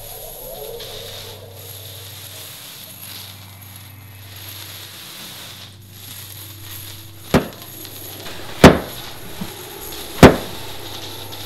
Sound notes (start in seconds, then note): 0.8 eerie Sounds; 8.3 banging Sound